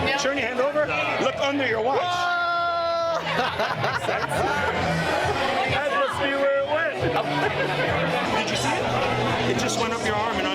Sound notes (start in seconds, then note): 2.9 group laughs